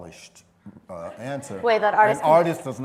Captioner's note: laughter